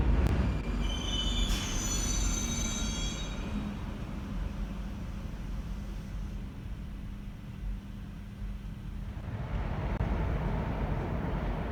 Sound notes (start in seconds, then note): 0.7 arrival of train at the station